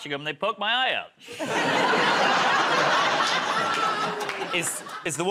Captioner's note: laughter